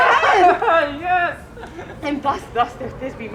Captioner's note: laughs